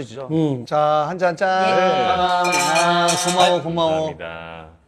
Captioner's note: clink of glasses